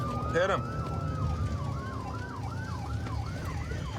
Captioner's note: sirens wailing